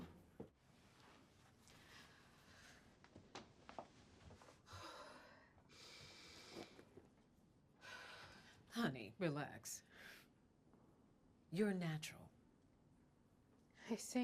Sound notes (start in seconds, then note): 5.7 sighs; 8.1 exhales deeply